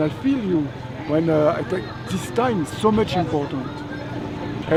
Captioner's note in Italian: Inglese